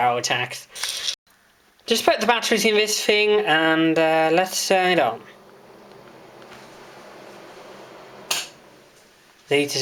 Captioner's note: click as heater turns off